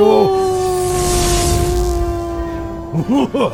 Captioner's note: Arvid laughing